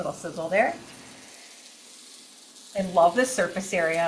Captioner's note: chicken sizzling